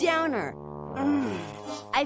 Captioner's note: groans